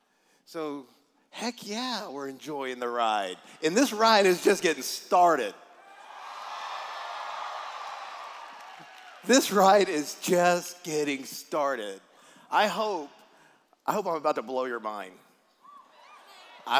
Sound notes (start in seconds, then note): 7.4 cheers